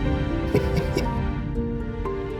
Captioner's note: laughing